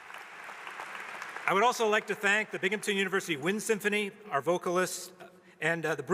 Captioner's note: applause